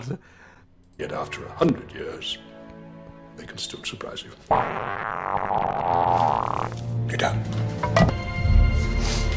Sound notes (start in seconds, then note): 4.5 amazingly hilarious fart sound effect; 6.7 whispering